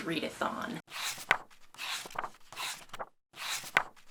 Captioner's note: pages turning